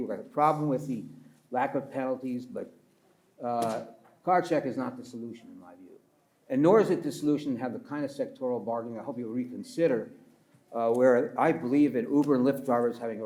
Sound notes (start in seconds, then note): 3.6 pats table